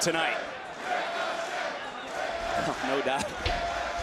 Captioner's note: crowd chanting, "ricochet"